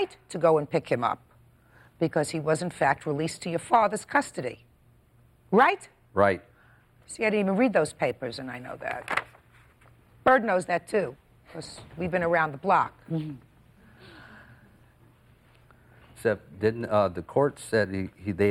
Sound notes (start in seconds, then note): 8.8 pages rustling